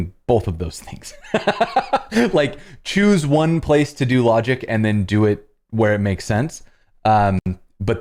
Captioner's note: laughter